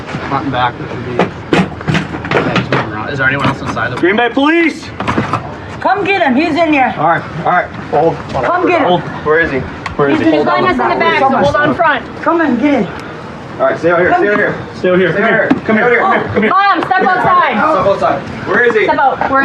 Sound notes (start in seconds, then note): 15.1 argrguingng